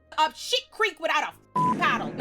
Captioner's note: beep